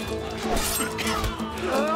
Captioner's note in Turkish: Öksürüyor